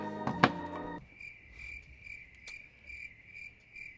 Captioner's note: crickets